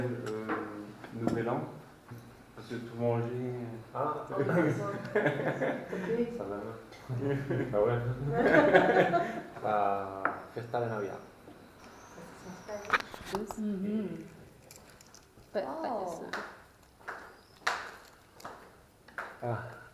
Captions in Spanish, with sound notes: Noël, nouvel an ah sí... [risas] fiesta de navidad